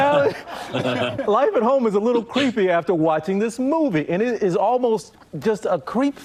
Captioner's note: laughter